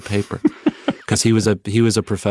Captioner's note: laughing